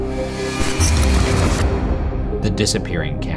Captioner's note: electrical buzzing